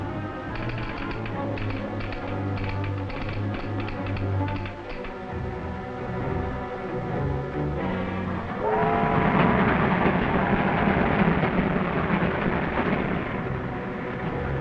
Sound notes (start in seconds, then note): 0.5 clicking; 8.6 train whistle blowing; 8.9 train chugging